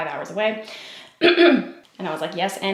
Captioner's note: clears throat